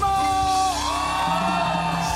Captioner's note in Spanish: Grita